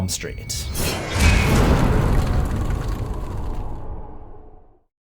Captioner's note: impact